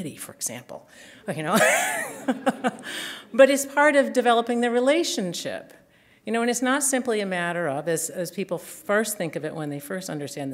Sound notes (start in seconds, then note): 1.7 chuckle